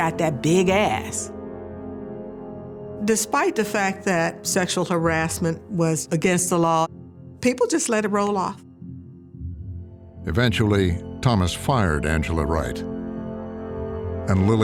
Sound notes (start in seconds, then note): none